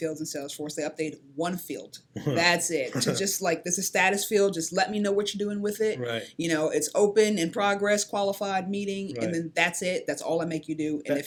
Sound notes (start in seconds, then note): 2.8 laughing